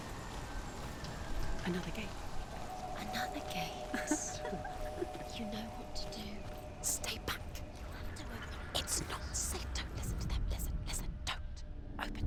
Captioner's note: laughs